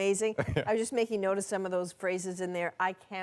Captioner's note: laughter